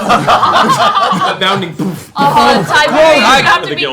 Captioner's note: laughter